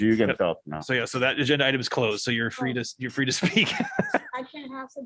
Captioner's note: laughter